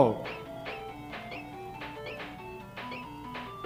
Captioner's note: game beeping